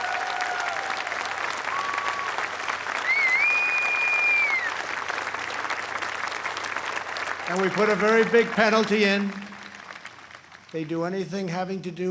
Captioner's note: applause